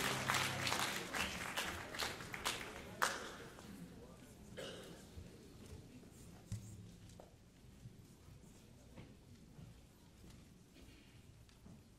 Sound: applause

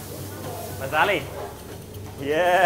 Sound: speaking foreign language

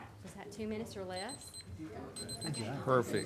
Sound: timer beeping; chuckles

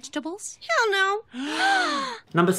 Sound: gasp

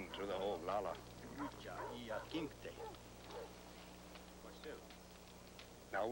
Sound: speaking Sioux

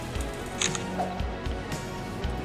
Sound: camera shutter

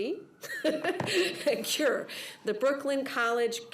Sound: laughs

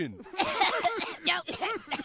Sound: laughs; boys coughing

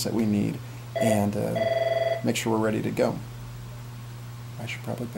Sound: phone rings

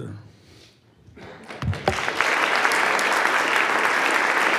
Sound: audience applauds

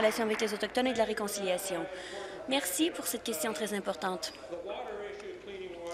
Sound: applause

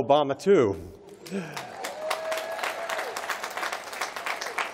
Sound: applause

